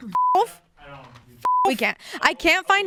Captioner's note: beep